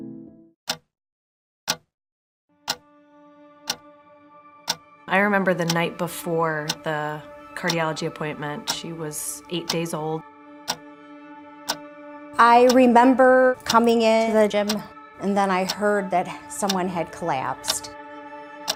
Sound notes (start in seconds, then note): 0.6 clock ticking